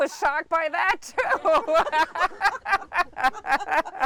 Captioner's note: both laugh